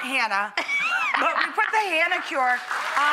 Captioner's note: laughs